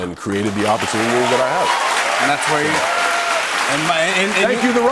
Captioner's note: cheers and applause